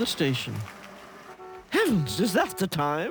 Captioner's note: gravel grinds; taxi honks